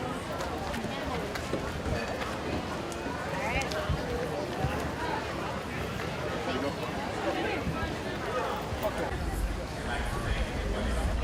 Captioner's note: crowd sounds